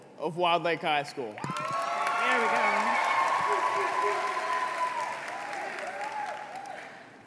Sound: applause

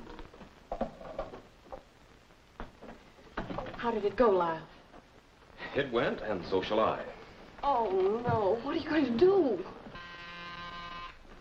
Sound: phone rings

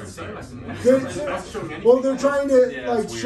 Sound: murmuring

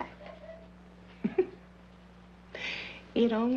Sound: Roy's Mother laughing

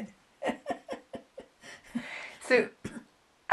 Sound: laughs

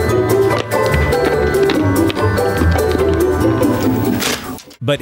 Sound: loud chewing

